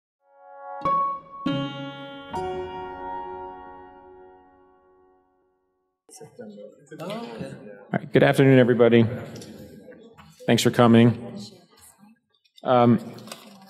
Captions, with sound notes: (slow music) (overlapping chattering) - All right, good afternoon, everybody. Thanks for coming.